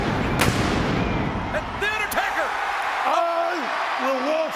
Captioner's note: audience cheers